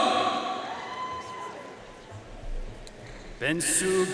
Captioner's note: audience cheering and applauding